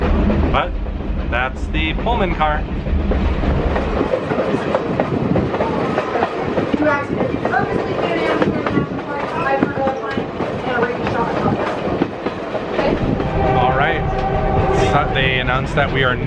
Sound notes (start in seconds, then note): 3.9 train wheels clacking